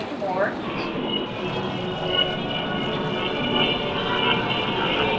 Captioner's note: spooky sounds